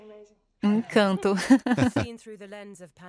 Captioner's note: Charles laughs loudly